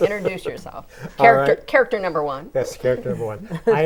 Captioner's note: laughing